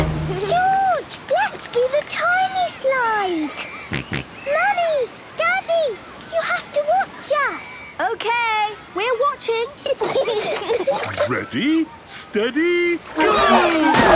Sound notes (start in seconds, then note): 3.9 George snorts; 9.8 giggling